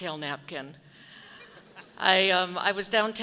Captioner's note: audience laughing